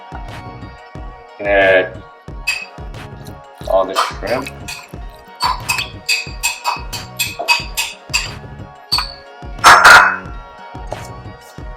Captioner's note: spoon scraping